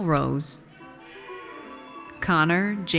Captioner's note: audience cheers